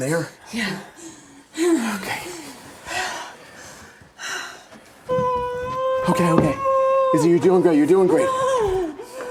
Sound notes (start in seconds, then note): 6.6 Isabel weeping